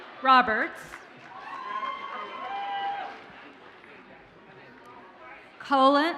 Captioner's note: audience cheers and applauds